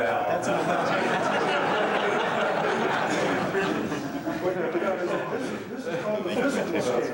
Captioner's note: laughter